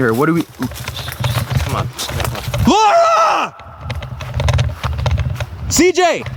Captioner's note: screaming